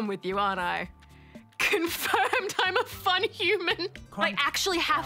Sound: laughs

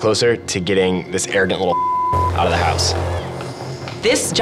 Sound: beep

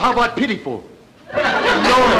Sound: audience chuckling

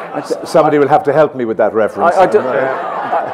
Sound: laughter; laughter

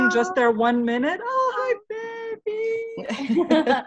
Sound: baby cooing in background

